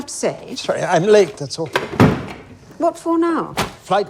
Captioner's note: briefcase clanging